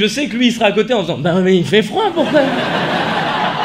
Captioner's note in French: voix d'enfant; rires